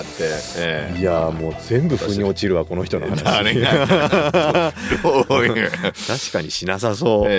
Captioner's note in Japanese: 笑い